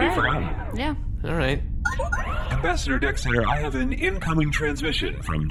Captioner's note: beeps and boops of an incoming transmission